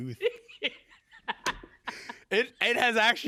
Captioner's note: laughing